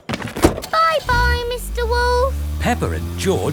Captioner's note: engine starts